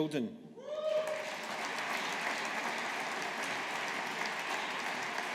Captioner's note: audience applauding